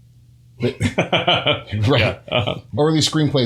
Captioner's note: laughter